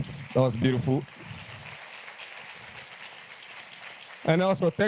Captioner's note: applause